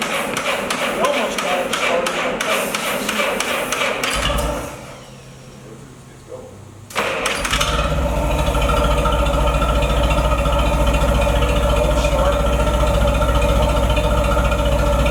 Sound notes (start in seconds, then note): 0.0 engine cranking; 6.9 engine starts!